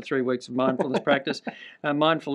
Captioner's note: chuckles